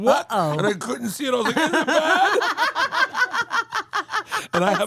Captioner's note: laugh